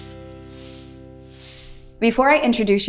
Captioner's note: screen whooshing